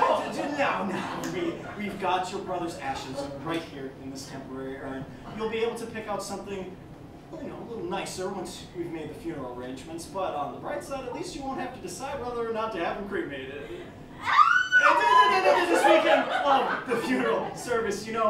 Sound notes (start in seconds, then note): 0.0 laughter; 14.6 Maxim Stammers; 15.4 laughter